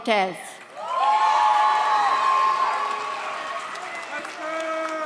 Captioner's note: audience cheers